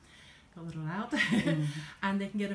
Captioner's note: laughter